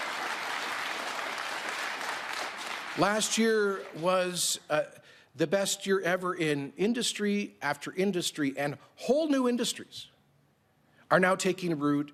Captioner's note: applause